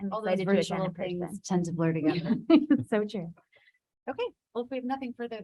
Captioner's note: laughs